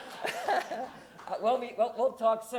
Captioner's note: laughs